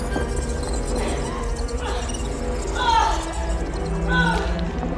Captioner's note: micro sounds of worms